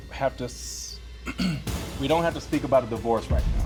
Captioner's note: clears throat